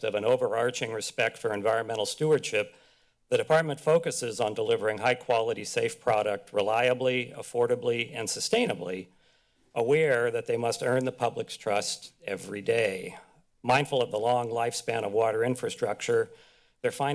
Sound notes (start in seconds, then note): none